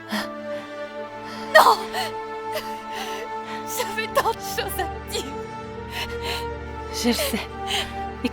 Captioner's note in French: pleure